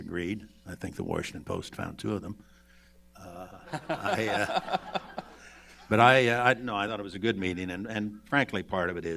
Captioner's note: laughter